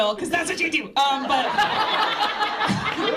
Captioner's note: laughter